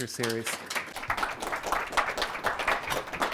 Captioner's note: applause